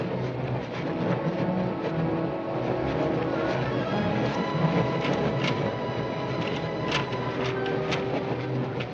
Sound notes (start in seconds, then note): 6.3 lock rattling